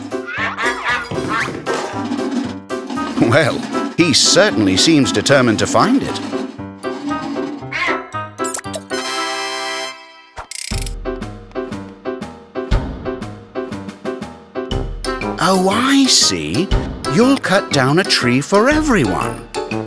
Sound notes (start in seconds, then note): 0.1 quacking; 7.3 echoing